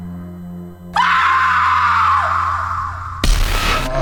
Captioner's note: screams very loud